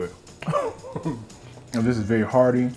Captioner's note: chuckles heartily